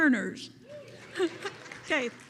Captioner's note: attendees applauding